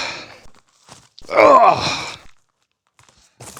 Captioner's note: alternate old man grunt